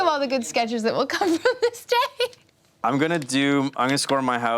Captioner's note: laughs